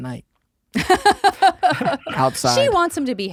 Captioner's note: laughter